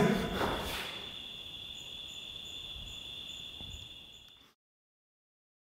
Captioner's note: crickets chirping